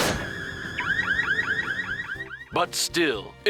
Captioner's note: alarm beeps